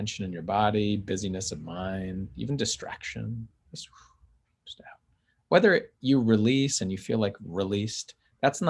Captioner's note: phew